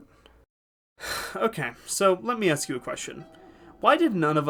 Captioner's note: sigh